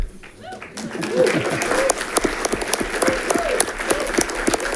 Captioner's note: audience clapping